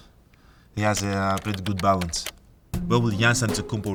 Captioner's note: keyboard clicking